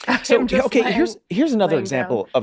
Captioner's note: laughing